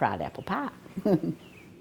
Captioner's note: laughs